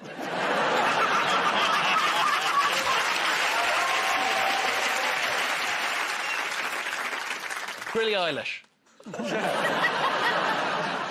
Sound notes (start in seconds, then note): 0.0 laughter; 3.9 cheers and applause; 9.0 laughter